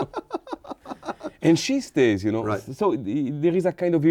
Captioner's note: laughing